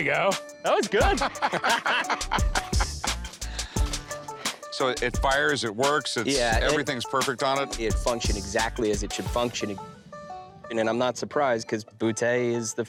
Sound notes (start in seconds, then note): 1.0 laughter